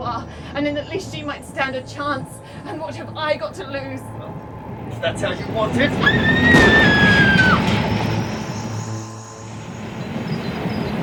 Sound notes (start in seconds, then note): 6.1 scream, Gunshot, Whistle as Train enters tunnel